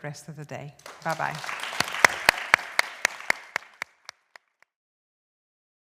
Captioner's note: applause